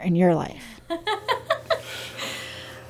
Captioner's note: laughs